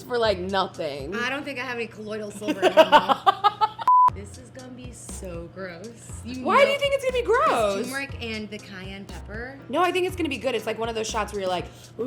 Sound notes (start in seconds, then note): 2.4 laughs; 3.8 beep